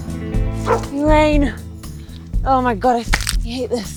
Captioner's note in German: Hund bellt